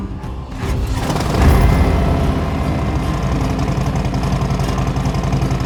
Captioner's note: motorcycle engine roaring